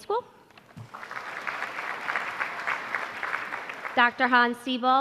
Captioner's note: applause